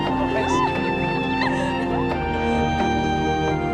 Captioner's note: laughter